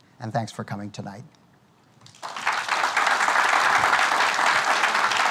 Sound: applause

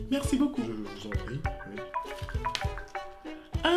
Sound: cell phone ringtone

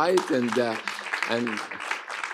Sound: applause

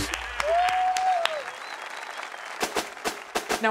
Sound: audience clapping and cheering

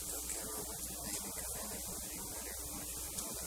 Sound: whispering

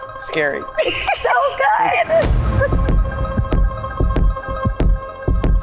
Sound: group laughing

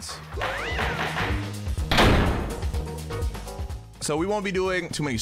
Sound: upbeat music; letter clanking

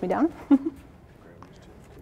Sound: chuckles

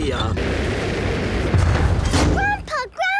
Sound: thuds

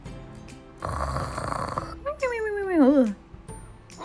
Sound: snoring

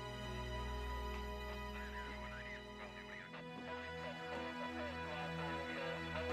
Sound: police chatter over radio

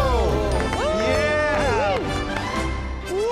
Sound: cheering

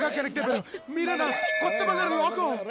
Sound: temple bell rings

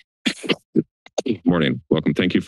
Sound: coughing

